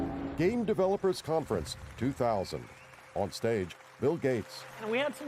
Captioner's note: applause